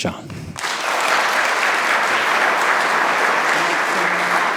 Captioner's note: audience applauding